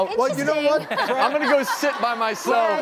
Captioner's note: laughing